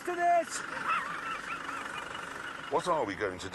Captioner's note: jeremy laughs